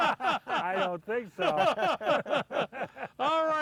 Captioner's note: gentlemen laugh; laughter